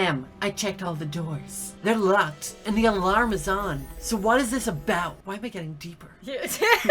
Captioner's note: lols